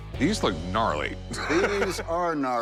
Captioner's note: laughs